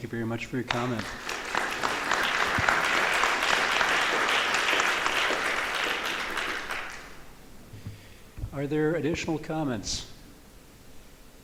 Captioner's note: applause